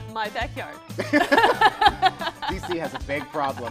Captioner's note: laughter